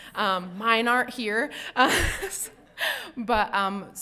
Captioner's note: chuckles